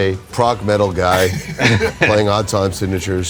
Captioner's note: laughs